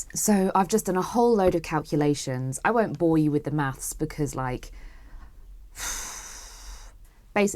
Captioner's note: deeeeeep sigh